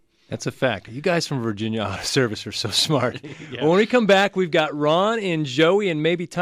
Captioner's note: both laugh